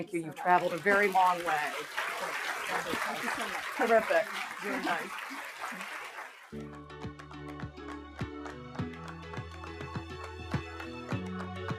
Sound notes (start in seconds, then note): 5.1 applause; 6.5 upbeat music